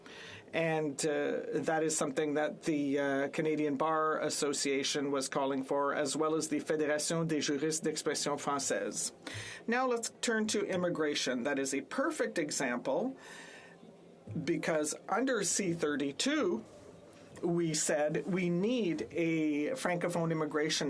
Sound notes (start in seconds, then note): 10.4 speaking French